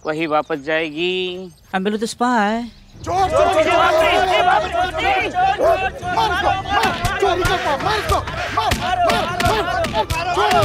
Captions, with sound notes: to its owner. I'm Billu, the spy. Thief! [clamouring]